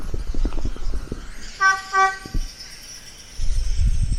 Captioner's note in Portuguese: buzinando